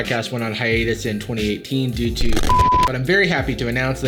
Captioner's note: beep